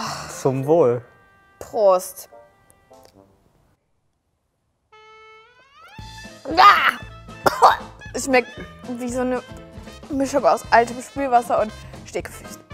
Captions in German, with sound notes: Zum Wohl. - Prost. (Muntere Musik) (Sie hustet.) Es schmeckt wie eine Mischung aus altem Spülwasser und Stinkefüßen.